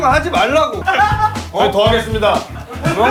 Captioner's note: laughing out loud